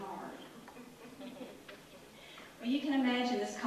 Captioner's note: audience laughter